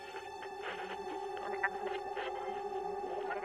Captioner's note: radio chatter